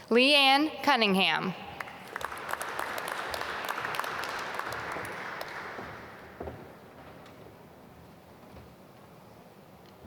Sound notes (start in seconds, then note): 1.7 applause